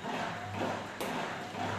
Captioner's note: pumping noise